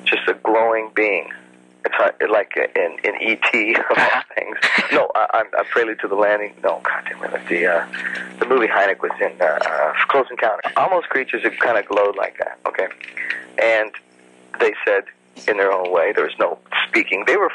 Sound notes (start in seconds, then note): 3.7 chuckles